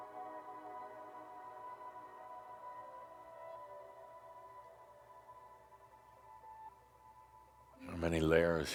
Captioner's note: longer pause